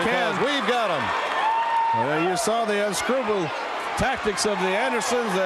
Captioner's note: crowd cheering